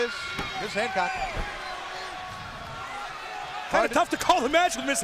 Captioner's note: crowd cheering